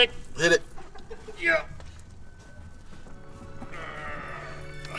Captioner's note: grunting